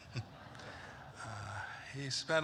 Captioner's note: laughter